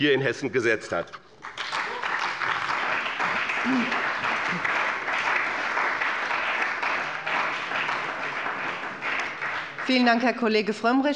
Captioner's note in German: Beifall bei dem BÜNDNIS 90/DIE GRÜNEN und der CDU